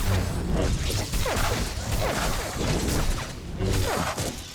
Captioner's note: gunshots